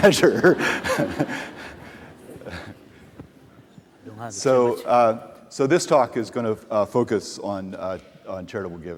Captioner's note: laughter